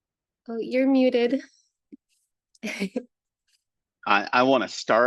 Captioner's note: laughs